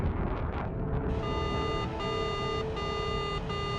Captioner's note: machine beeping